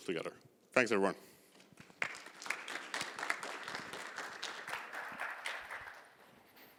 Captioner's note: applause